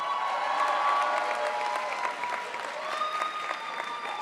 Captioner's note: crowd applauds